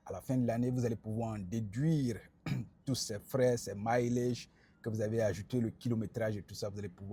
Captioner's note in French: raclement de gorge